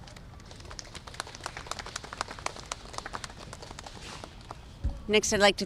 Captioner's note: applause